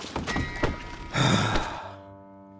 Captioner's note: sigh